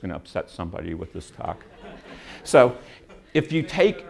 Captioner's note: laughter